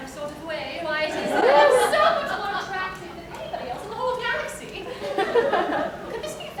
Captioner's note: laughter